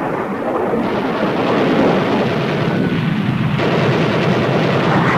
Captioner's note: guns firing